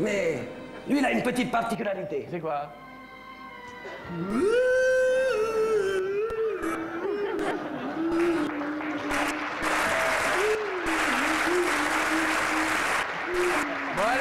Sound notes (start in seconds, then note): 2.7 applause